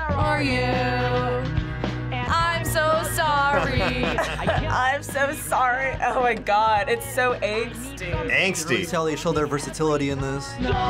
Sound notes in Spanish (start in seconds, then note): 3.4 se ríe; 3.4 risas